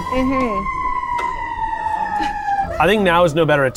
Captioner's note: siren blaring